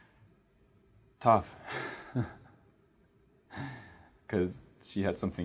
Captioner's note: chuckles